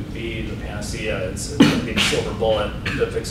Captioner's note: coughing